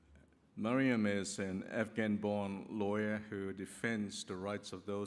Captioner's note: none